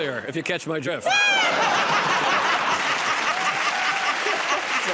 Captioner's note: laughter; applause